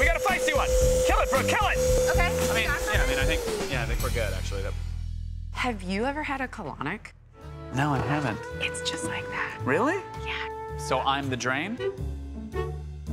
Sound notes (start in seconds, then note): 0.1 whirring stops